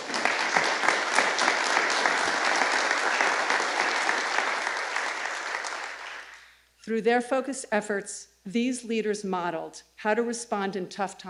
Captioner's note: applause